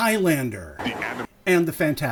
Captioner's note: deep announcer voice